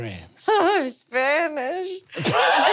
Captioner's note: giggles